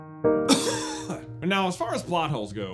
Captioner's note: cough